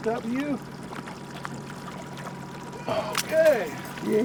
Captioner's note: fish splashing